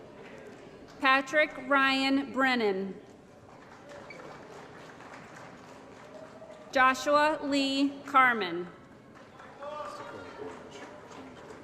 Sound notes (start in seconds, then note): 3.3 applause; 9.1 applause & Cheering